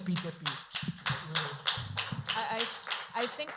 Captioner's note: applause